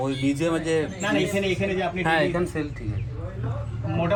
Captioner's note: foreign language